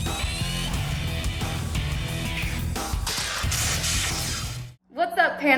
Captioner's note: intense music continues; electrical sparking